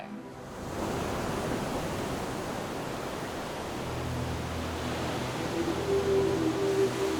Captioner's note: waves crashing; dreamy music